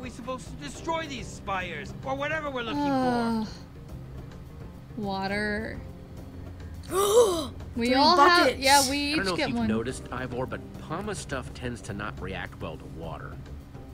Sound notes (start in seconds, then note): 2.7 Sabrina sighs; 6.8 gasps